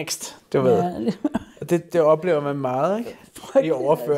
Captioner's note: laughs